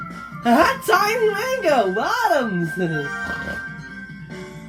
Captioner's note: snorts 2x